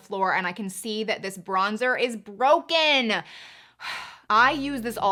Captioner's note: exhales